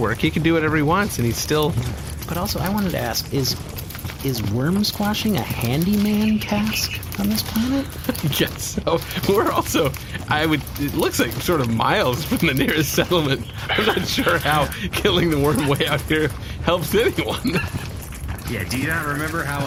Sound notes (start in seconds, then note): 8.1 laughing